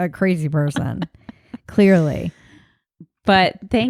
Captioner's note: laughs